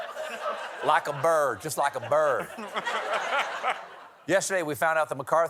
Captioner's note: laughter